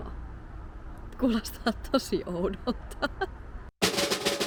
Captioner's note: laughter